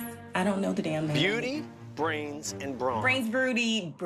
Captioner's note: soundbite of tv show, "survivor: cagayan"